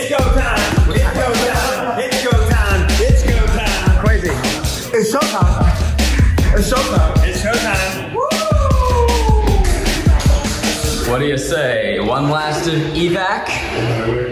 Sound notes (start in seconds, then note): 0.0 office workers laughing; 8.0 whoops